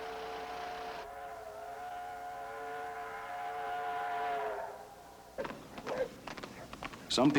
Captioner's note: train horn sounds